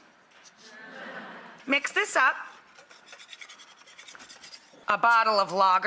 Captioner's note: audience laughs